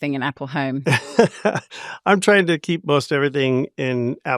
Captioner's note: chuckles